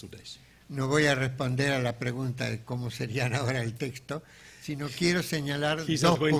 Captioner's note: speaking in a foreign language